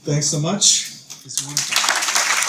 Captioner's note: applause